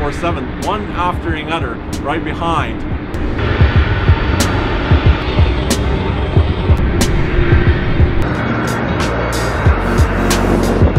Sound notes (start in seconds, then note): 3.4 engine roaring